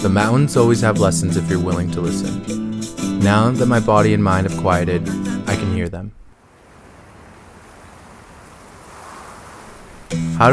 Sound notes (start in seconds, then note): 7.4 wind swooshing